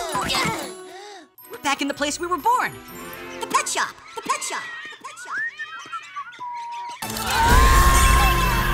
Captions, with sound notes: We're back in the place we were born! The pet shop! [echoing] [whistling] [screaming]